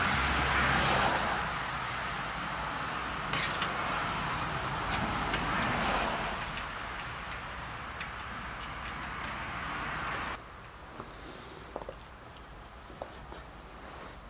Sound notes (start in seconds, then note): 0.0 cars passing, many cars passing; 3.2 metallic noise